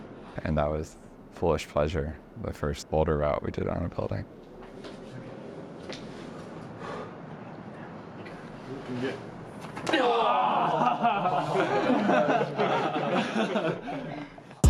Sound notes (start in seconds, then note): 6.7 exhales; 11.9 all laughing